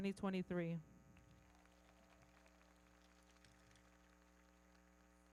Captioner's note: everybody clapping